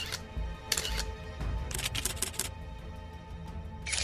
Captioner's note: camera Snaps